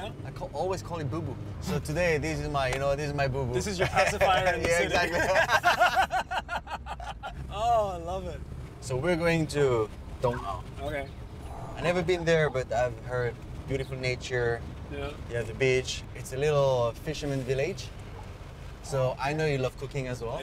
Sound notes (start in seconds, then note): 5.1 both laugh